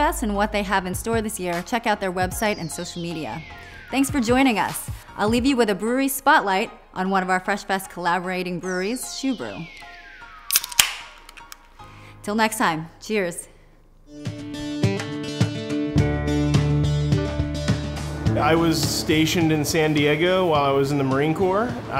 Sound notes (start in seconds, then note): 10.5 can whizzing; 14.0 relaxing folk music